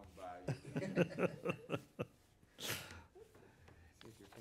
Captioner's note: laughing